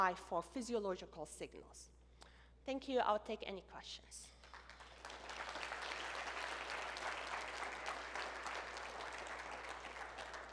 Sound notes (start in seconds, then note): 4.4 applause